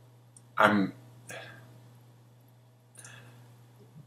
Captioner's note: sighs